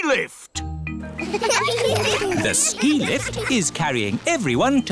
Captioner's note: laughter